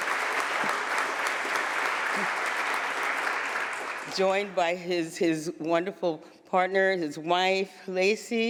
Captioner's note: applause